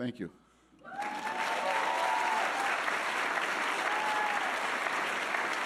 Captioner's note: audience cheering and applauding